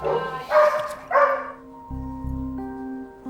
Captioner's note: dog barks; gentle music